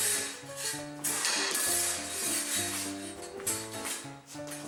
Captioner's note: metal clanks